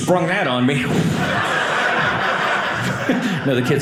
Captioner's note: audience laughing